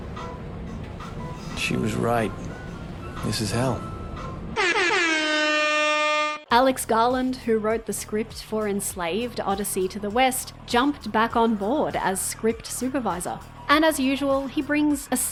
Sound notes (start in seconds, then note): 4.5 loud horn